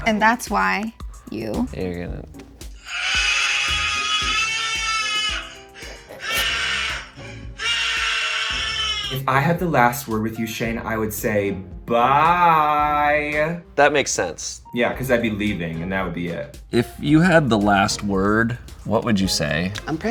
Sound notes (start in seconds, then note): 2.8 recorded screaming sound; 5.8 muffled laughter